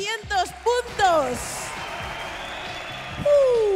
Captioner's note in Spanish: Aplausos